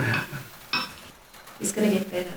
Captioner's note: wine glass clinks